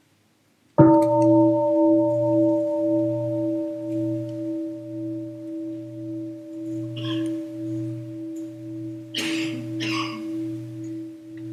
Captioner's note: gong